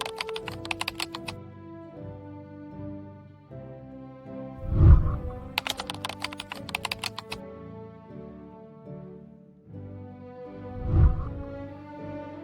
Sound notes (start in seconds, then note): 0.0 keyboard clicking; 4.6 whooshing sound